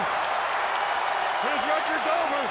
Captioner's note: crowd cheering